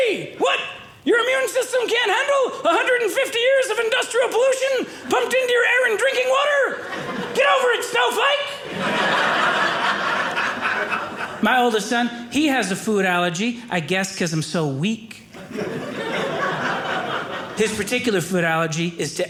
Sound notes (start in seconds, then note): 8.5 audience laughing; 15.3 audience laughing